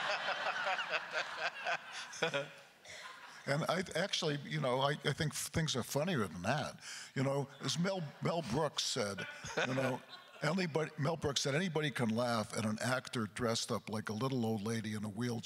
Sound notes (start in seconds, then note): 0.0 laughing